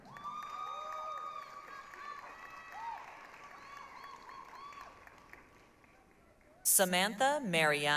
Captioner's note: applause, cheering